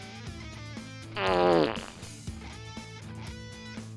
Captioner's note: fart